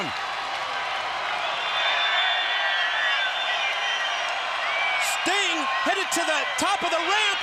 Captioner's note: crowd chatter